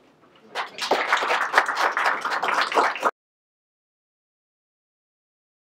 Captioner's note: everyone applauding